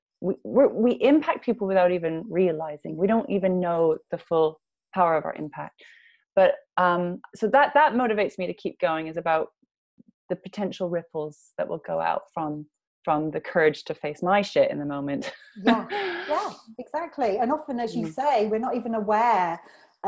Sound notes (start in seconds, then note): 15.6 laughs